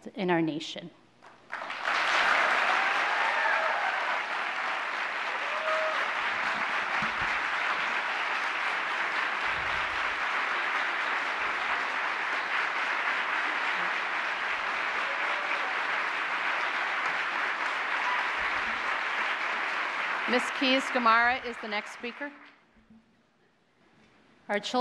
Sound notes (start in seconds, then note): 4.6 applause